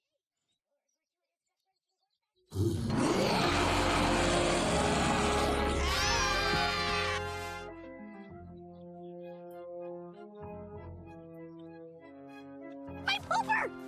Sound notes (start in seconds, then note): 2.5 roaring; 5.5 screaming